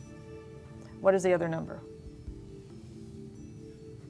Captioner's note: whispering